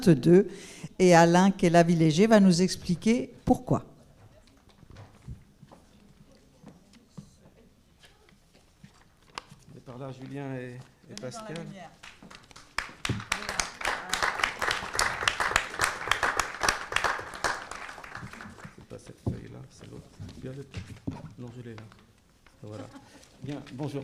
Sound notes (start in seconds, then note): 3.8 applause